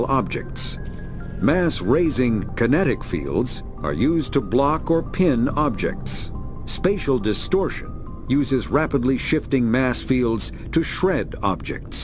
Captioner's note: distortion